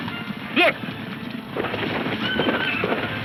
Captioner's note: horse neighing; horses neighing